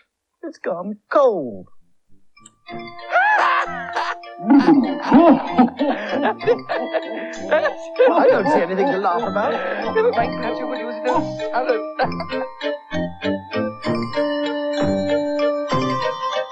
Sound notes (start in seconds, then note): 3.1 Toby And Cauldron Laugh; 12.8 laughs